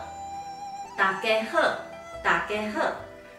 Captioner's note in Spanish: en taiwanes